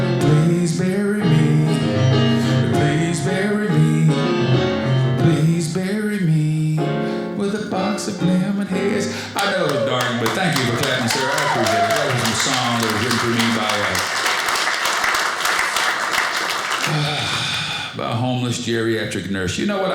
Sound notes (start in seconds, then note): 14.6 audience applauding